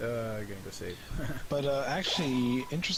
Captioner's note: nervous laughter